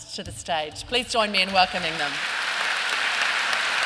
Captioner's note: applause